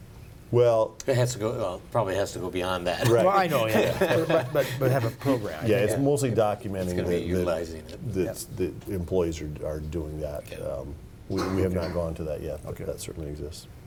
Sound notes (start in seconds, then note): 3.0 laughs